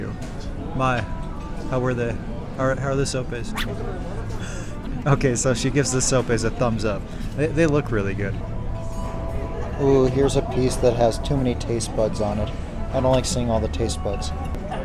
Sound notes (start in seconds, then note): 3.5 thumb swooshing